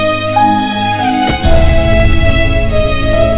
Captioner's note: Car door closes